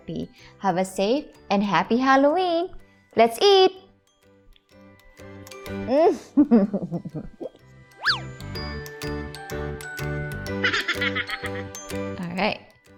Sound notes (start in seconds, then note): 6.3 chuckling